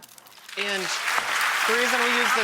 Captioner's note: audience applauds